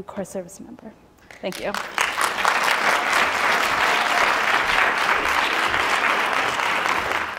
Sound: audience clapping

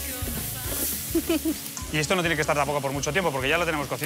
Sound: laughs

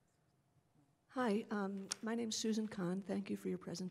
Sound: voiceover

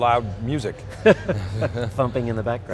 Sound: laughing

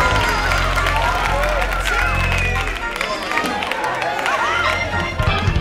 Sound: crowd exclaiming

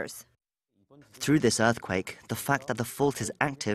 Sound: Korean

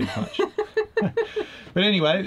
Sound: both laugh

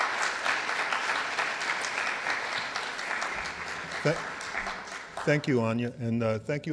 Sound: clapping

